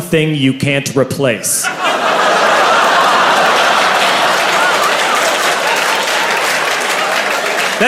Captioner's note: laughter